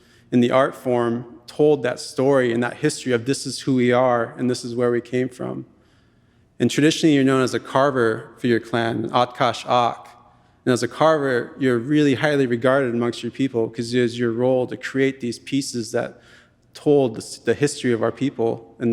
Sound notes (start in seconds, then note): 9.1 speaking in Tlingit language